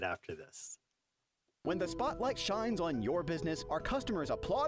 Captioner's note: voiceover